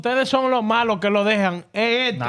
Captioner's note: speaking In Foreign Language